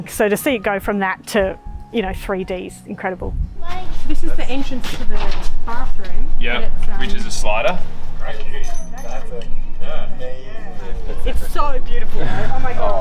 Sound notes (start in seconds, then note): 8.3 group talking